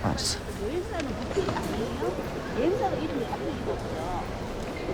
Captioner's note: people talking in background